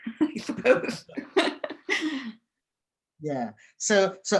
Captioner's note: laughing